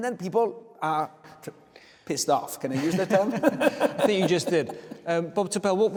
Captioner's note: laughing